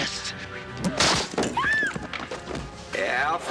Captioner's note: screams